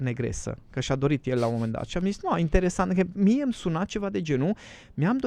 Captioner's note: snoring